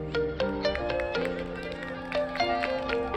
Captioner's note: crowd cheers; crowd claps